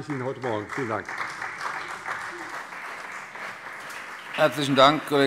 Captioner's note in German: Beifall CDU und BÜNDNIS 90/DIE GRÜNEN